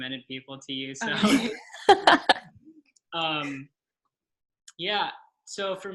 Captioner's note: laughs